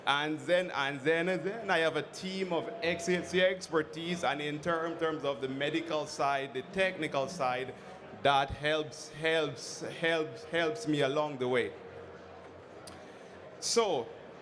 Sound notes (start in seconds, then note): none